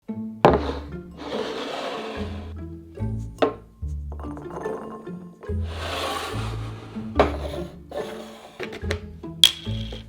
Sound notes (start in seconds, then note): 0.0 quirky music playing in background throughout video; 0.5 bowl sliding